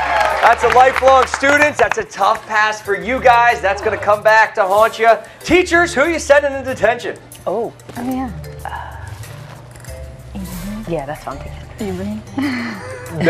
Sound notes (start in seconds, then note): 0.0 applause